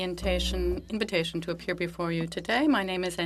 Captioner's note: speaking French